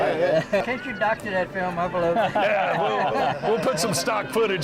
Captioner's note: laughing